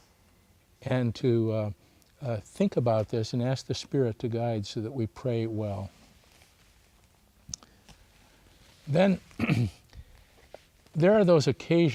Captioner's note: clears throat